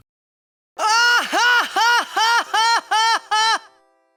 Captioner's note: loud, forced laughter